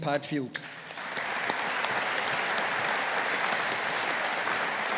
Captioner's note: audience applauding